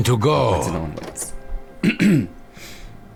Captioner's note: clears throat